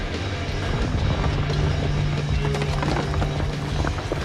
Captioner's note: road Collapsing